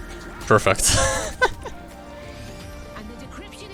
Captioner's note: chortle